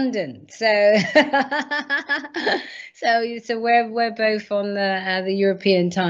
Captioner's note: laughs